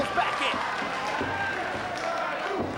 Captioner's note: spectators cheering and applauding; spectators chanting "Sabu!"